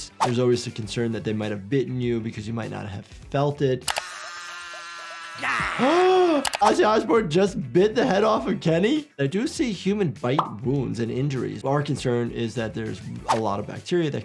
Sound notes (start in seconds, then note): 3.9 Ozzy screaming